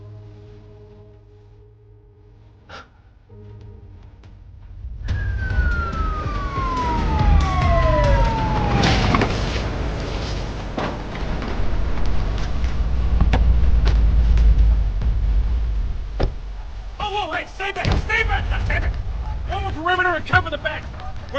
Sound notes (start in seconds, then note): 0.3 tense music; 5.0 sirens blaring